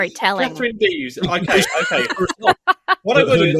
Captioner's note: laughs